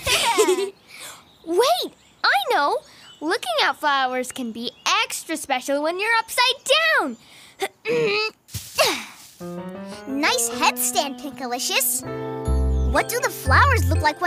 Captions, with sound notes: - (laughs) Wait, I know. Looking at flowers can be extra special when you're upside down! (grunts) - Nice headstand, Pinkalicious. What do the flowers look like